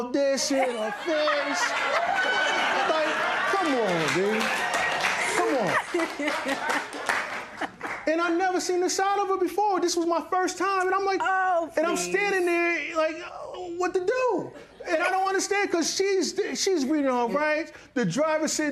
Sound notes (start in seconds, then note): 0.4 laughter; 5.7 laughter, applause